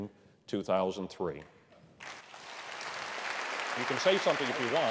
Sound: applause

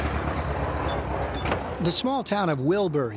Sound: engine hums

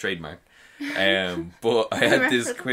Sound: both laughing

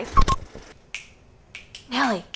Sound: beep; snapping fingers

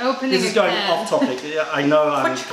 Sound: laughter

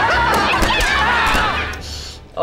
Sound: screaming

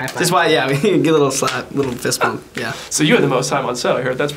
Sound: slaps hands

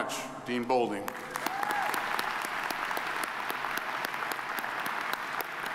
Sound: audience applauding

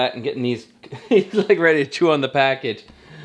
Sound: laughs

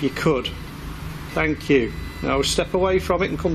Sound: machine buzzes

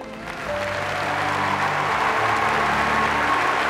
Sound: crowd cheering

